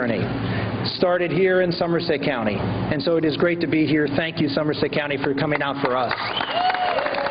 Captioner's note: applause